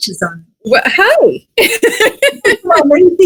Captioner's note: laughs